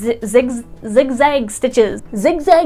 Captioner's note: annunciating carefully